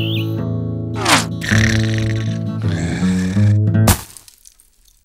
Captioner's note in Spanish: ronquidos